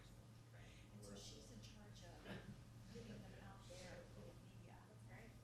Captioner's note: people murmuring